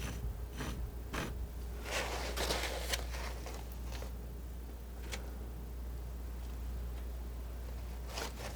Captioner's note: scratching